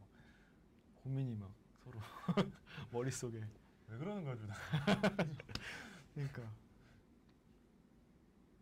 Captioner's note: laughs